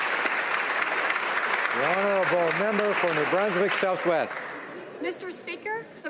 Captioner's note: some Applause